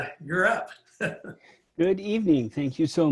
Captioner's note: chuckles